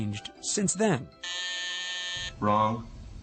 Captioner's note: buzzer buzzes